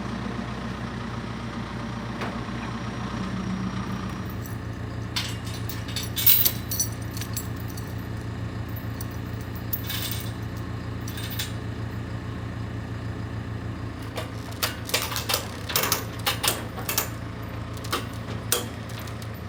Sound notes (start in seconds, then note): 5.9 chain clinking; 14.0 chain clanking